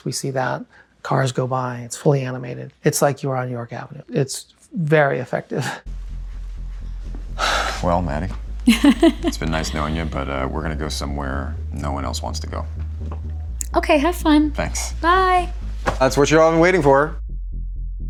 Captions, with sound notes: We see that cars go by. It's fully animated. It's like you are on York Avenue. It's very effective. - [sighs] Well, Maddy, it's been nice knowing you, but we're gonna go somewhere no one else wants to go. - Okay, have fun. - Thanks. - Bye. - That's what you're all been waiting for.